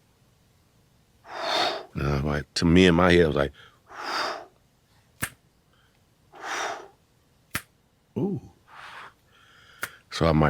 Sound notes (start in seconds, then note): 4.6 exhaling; 5.2 snapping; 6.3 exhaling; 8.6 exhaling; 9.8 snapping